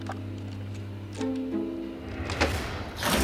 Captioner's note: thud